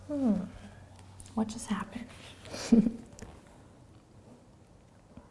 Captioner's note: chuckles